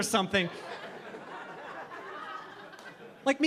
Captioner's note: audience laughing